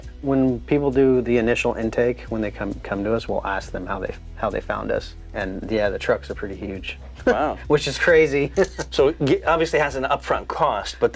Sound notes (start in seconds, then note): 7.2 laughs